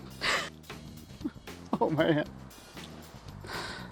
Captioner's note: both laughing